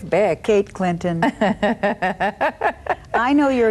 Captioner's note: laughing